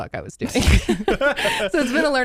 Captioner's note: everyone laughs